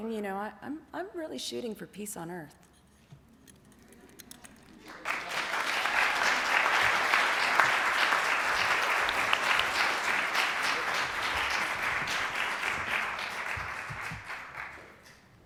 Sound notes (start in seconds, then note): 3.8 clapping